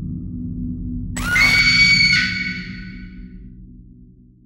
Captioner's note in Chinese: 女鬼尖叫聲